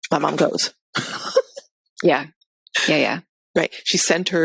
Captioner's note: laughs